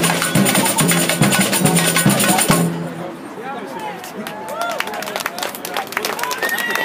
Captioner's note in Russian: аплодисменты, крики и звонки велосипедистов